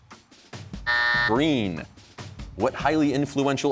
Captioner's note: buzzer